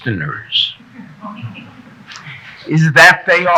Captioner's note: audience members chuckle